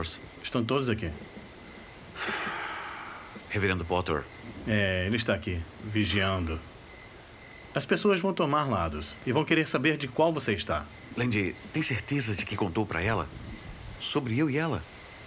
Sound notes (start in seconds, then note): 2.1 sighs